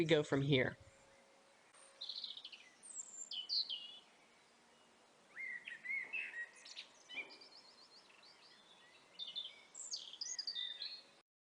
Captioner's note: birds chirping